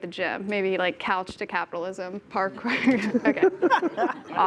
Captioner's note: laughing